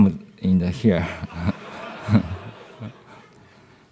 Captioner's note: laughter